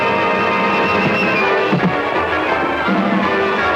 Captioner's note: intense music; fist pounding; intense music